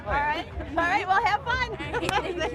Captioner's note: laughs